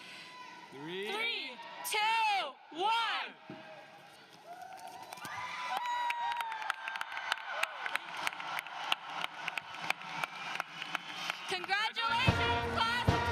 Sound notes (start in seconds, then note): 4.4 cheering and Applause